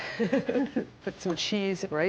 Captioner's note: laughs